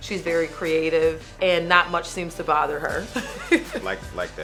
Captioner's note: chuckles